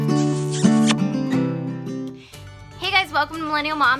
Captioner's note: kissing noise